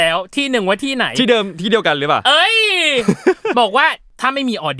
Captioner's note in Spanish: Risas